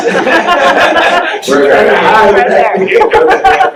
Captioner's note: laughing